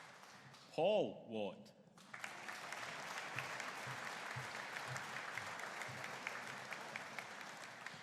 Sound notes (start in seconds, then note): 2.0 audience applauding